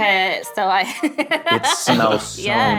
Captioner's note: laughing